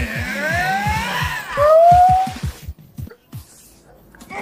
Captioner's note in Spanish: Aulla